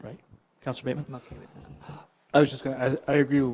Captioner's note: indistinct chatters